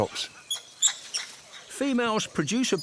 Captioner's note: monkeys squeak